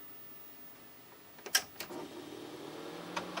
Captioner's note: hi-fi sounding click; sweet sweet whirring sounds